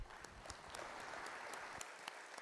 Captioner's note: audience applauding